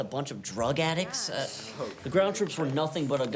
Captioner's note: students grumble